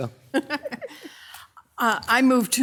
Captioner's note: both laughing